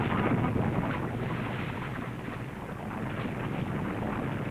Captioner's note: waves lapping